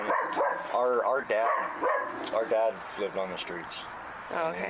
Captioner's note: Frank barking